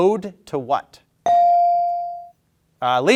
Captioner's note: bell ringing